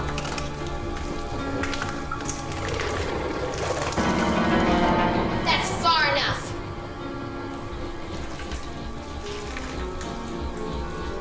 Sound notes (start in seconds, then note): 2.5 suspenseful music; 2.5 water dripping